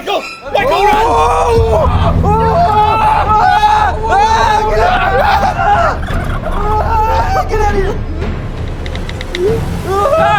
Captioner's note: screaming